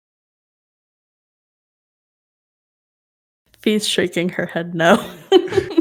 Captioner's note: laughs